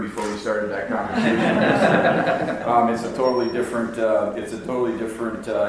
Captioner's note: audience laughs